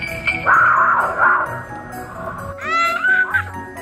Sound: bells jingling; bobcat roaring; Parker screams

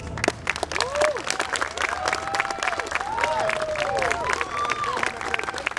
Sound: audience cheers and applauds

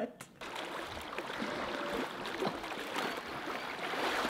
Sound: laughs; water splashing

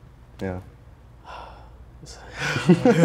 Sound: sighing; both laughing

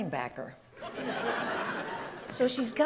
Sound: audience laughs

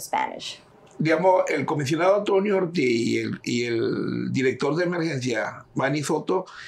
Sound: speaking in Spanish

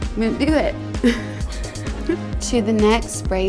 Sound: laughs

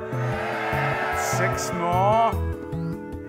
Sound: cheering

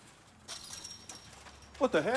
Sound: glass clattering; fence jingling

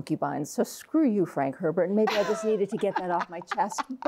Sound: laughing

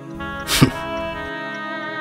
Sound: chuckles

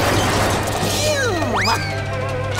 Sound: grunting

